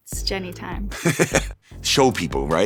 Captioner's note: laughs